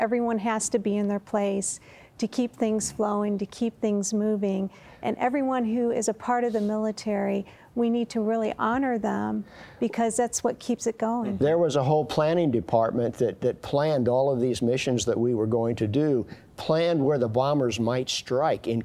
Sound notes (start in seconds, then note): none